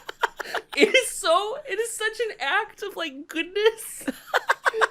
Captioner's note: laughs; choked up; laughs